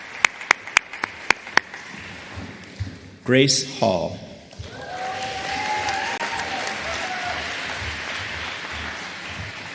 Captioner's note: applause